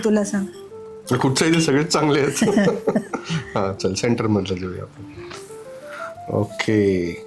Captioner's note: laughs